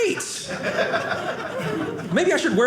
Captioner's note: audience laughing